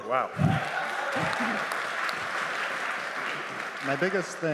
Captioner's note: applause